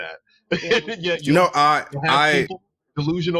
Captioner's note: laughs